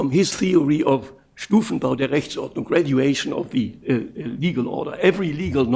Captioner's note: speaking german